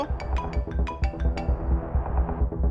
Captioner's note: phone ringing